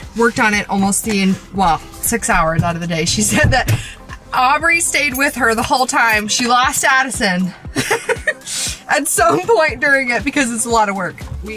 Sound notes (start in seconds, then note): 7.7 laughs